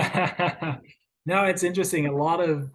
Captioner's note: chuckles